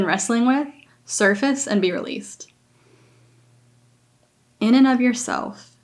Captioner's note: inhales